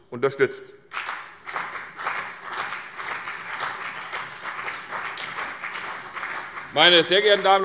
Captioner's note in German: Beifall CDU und BÜNDNIS 90/DIE GRÜNEN